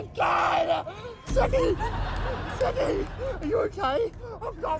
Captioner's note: laughter